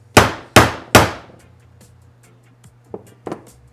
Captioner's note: none